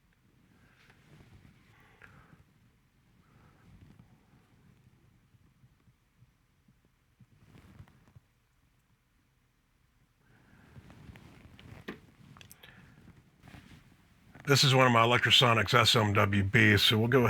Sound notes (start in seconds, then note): 5.5 silence